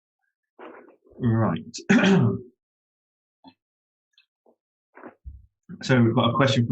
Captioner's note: clears throat